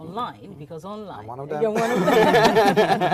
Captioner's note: all laughing